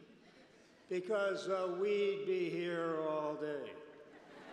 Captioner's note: laughter